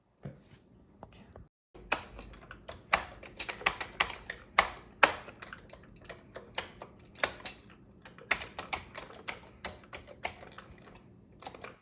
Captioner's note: typing on a Commodore 64 keyboard